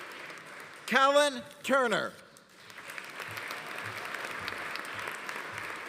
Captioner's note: audience applauding